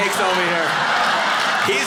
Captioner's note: audience laughing